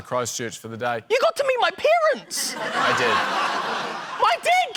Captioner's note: laughter